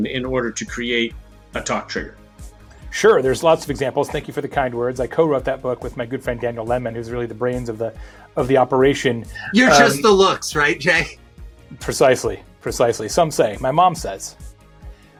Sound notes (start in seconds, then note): 9.4 laughs